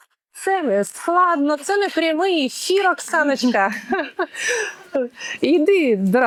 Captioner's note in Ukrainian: сміх